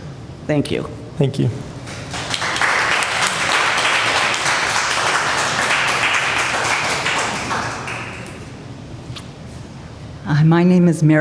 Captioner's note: applause